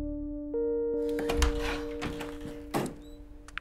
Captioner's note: Door opens